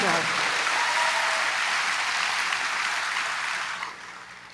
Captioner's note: applause